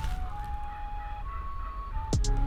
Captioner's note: turkeys chirping